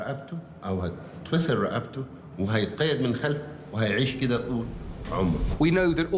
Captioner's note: in Arabic